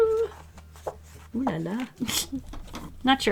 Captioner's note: chuckles